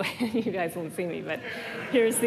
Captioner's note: laughter